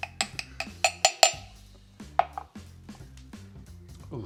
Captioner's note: clanking